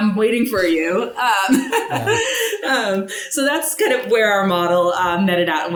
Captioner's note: laughs